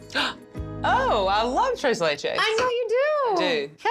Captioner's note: gasps